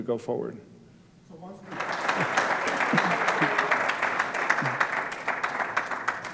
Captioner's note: applause